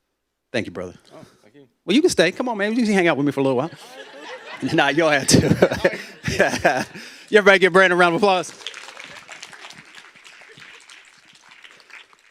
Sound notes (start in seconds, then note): 3.6 laughter; 3.6 laughing; 7.7 applause